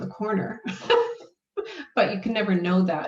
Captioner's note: laughs